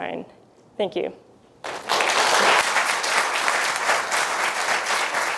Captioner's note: applause